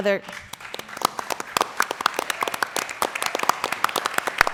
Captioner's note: applause